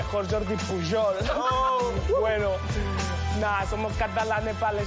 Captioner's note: laughs and shouts